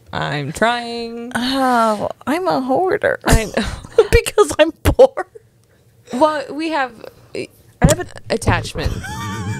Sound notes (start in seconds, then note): 5.6 laughs